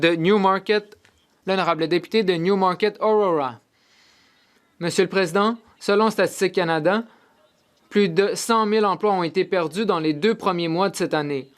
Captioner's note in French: voix de l'interprète